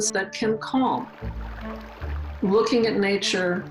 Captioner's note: water gurgling